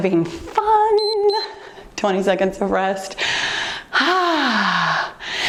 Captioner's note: timer beeps